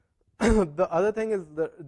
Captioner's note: cough